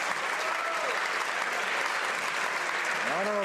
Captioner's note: some Applause